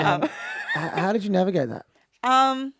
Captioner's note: group Laughs